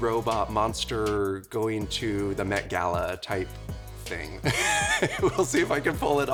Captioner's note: chuckles